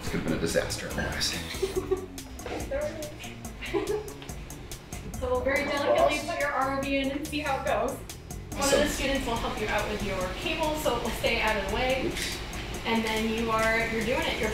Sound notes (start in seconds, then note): 1.4 student laughs